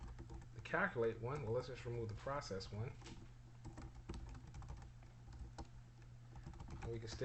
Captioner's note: typing sounds